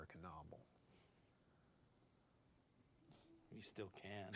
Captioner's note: crickets chirping